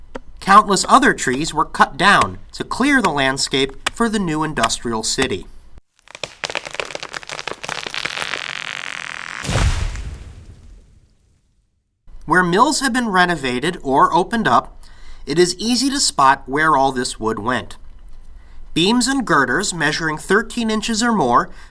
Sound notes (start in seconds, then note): 0.1 axe chopping tree sound; 6.0 groaning, crackling sound of a tree falling with a crash